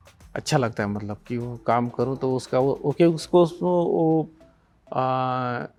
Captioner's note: speaking foreign language